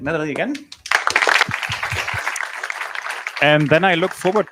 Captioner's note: applause